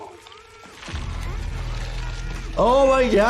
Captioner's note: muffled shouting